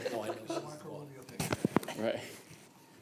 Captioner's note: laughter